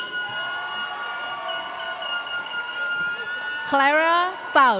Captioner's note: horn shrieking